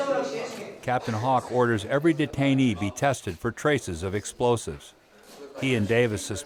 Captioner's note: voiceover